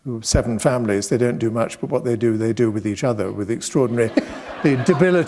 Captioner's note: laughter